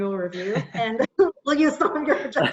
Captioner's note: laughing